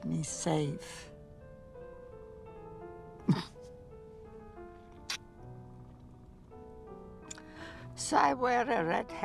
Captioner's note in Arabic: تضحك